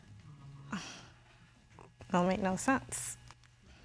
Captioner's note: exhales